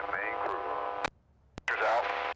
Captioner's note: muffled radio chatter